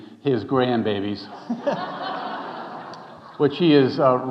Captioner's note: audience laughing